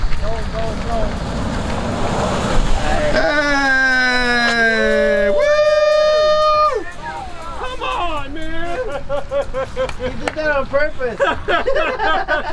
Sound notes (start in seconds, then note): 2.8 cheering; 10.3 laughing